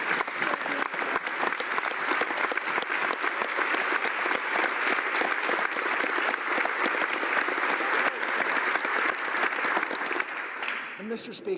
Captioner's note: applause